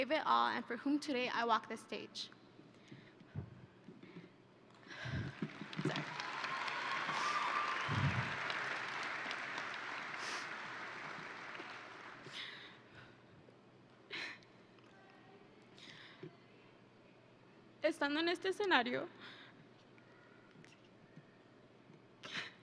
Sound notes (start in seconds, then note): 5.3 exhales; 6.9 audience and graduates cheering; 8.5 audience and graduates applauding; 18.1 speaking in foreign language